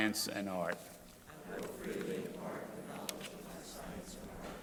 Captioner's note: crowd repeating